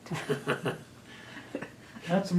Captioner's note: laughter